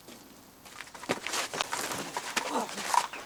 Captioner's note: grunting